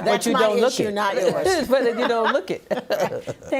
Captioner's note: laughing